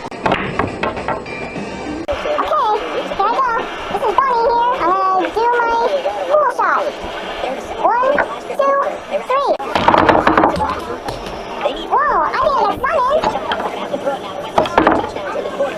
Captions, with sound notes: [Pool balls bopping] Okay. Here I go. This is Bonnie here. I'm gonna do my pool shot. One, two, three...[ball bang] Whoa! I got some in! [More ball bang]